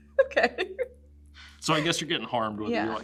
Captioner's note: laughs